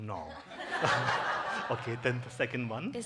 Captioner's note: congregation laughing